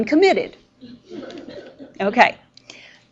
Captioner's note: students laughing